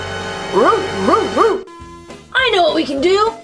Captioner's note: barking